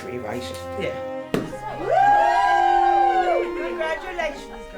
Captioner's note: all cheering